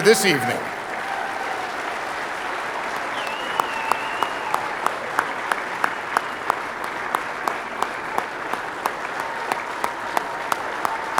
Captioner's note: applause